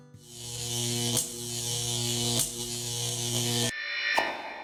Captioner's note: digital buzzing